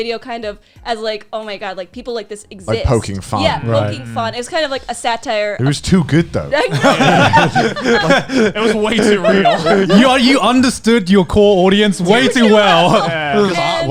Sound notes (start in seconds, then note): 6.6 laughing